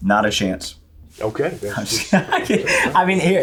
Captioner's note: laughs